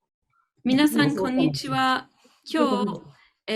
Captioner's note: speaking japanese